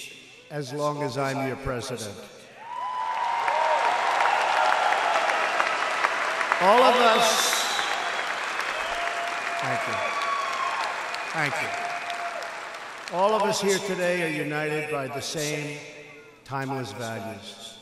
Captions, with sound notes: as long as I'm your president. (Applause.) All of us -- thank you, thank you. All of us here today are united by the same timeless values.